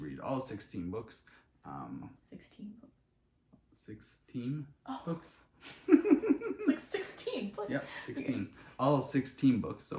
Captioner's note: sarcasm